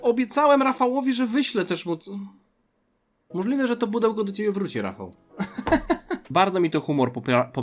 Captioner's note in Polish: śmiech